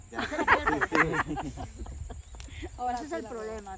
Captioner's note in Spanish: risas